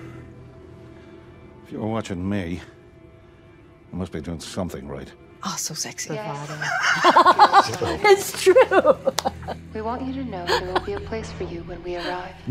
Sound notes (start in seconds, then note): 6.4 laughs; 6.4 laughter